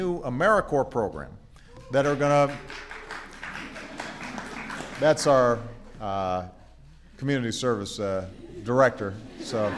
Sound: applause; laughter

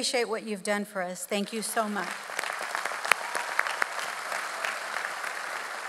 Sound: audience applauds; claps

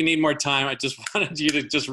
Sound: fingers snapping

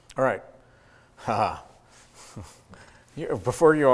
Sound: laughs

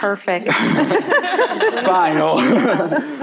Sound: people laughing

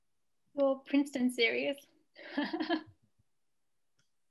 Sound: laughs

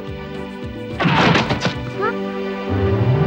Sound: groans

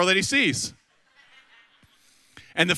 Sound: audience laughs

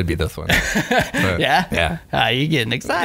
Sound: laughter

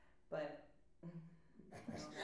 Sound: laughs

